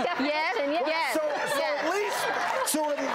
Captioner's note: laughter and applause